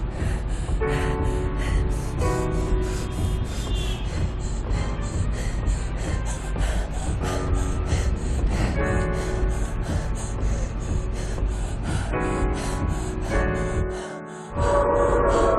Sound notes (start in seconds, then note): 8.4 panting